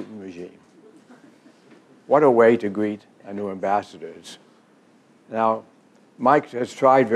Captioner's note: laughs